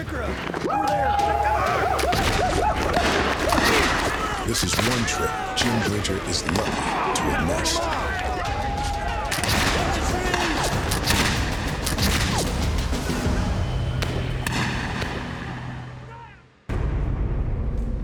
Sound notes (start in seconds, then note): 1.6 indians howl, gunfire; 8.4 gunfire